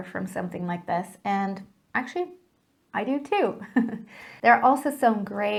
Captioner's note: laughs